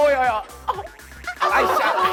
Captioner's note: pi, piii